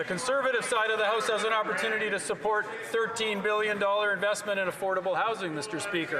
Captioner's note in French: voix de l'interprète